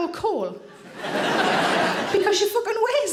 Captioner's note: audience laughs